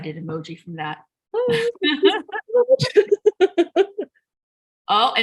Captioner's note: laughter